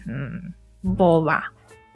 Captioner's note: spanish